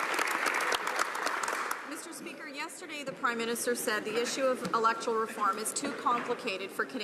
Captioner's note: some Applause